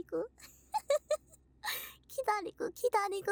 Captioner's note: laugh